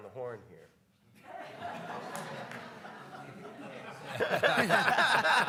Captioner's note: audience laugh; panelists laugh